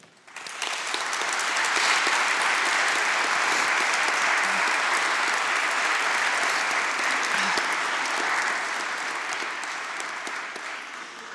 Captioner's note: applause